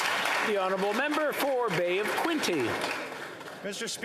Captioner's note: applause